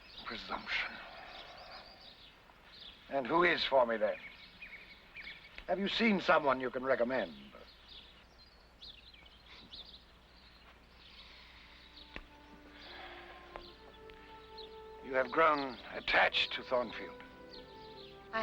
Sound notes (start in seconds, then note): 9.3 birds chirping; 13.8 sentimental music